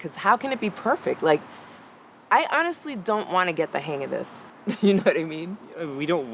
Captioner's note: laughs